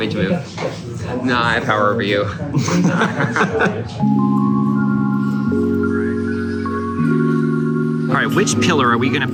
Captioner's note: laughing